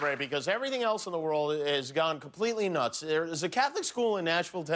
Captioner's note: cheers and applause